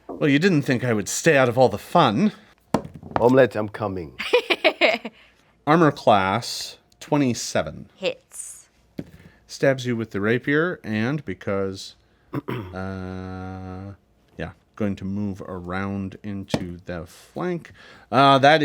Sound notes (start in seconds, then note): 4.6 Omelette laughs